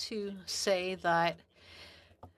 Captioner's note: speaking French